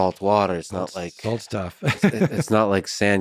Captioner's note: laughs